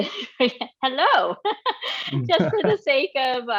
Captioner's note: laughs